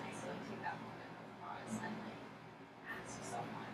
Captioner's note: speaking softly